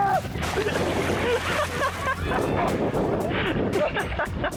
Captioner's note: man laughing